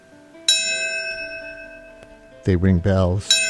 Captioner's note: bells ringing